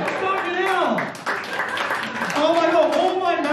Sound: applause

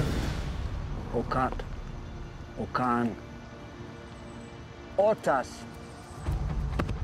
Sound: speaks blackfeet; pounds chest

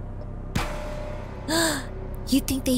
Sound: gasping

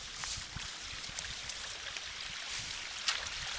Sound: running water

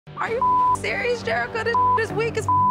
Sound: beep

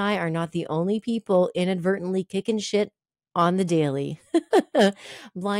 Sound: laughs

